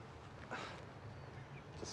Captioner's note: scoffs